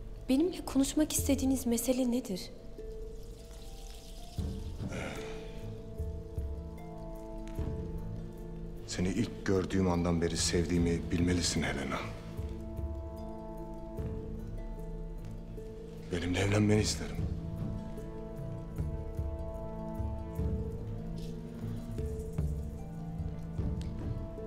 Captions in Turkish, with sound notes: Benimle konuşmak istediğiniz mesele nedir? (Müzik - Gerilim) (Alev sesi) Seni ilk gördüğüm andan beri sevdiğimi bilmelisin Helena. Benimle evlenmeni isterim. (Müzik - Gerilim) (Alev sesi)